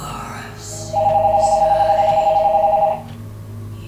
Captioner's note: phone continues ringing